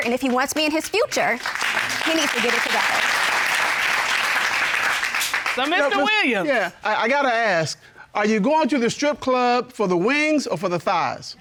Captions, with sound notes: And if he wants me in his future, he needs to get it together. [applause] -So, Mr. Williams-- -Yeah. I gotta ask. Are you going to the strip club for the wings or for the thighs?